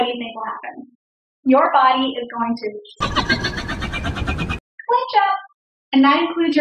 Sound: demogorgon sound

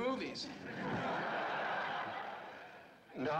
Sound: laughter

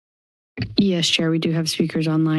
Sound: mic thumps

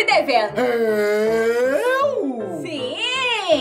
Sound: dramatically

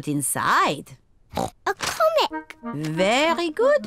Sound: oinks

